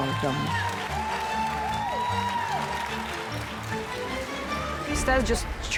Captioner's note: crowd applause and cheers continue